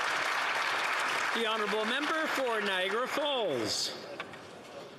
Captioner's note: some Applause